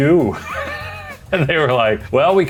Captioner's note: laughs